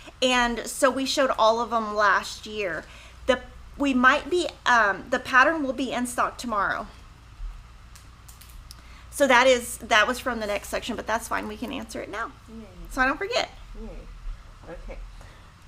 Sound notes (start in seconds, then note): 13.8 mumbling